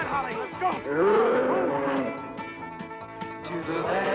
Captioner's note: dinosaur roars